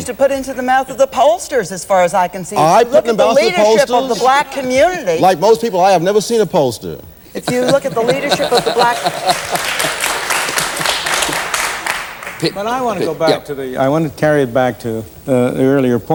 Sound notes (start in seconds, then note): 7.4 laughter; 8.8 applause